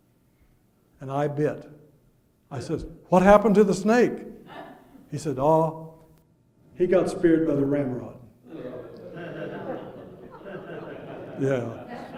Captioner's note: audience chuckles